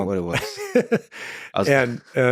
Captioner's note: laughs